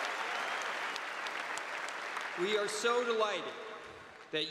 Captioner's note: cheers and applause